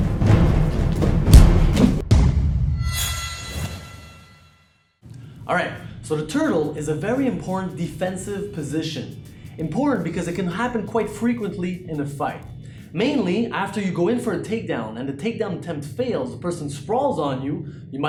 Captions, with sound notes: (blow thuds) All right. So the turtle is a very important defensive position. Important because it can happen quite frequently in the fight. Mainly, after you go in for a takedown and the takedown attempt fails, the person sprawls on you,